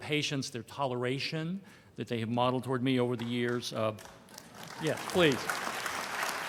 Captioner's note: applause